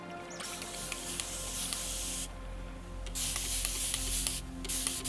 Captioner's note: bottle spraying